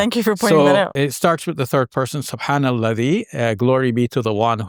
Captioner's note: speaking Arabic